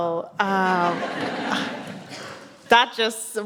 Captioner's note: audience laughs